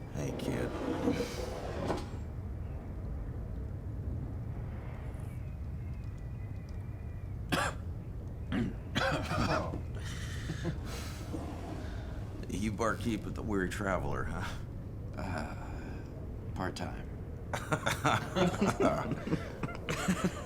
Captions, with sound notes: Hey kid. (coughing) You barkeep with The Weary Traveler, huh? - Part time. (laughing)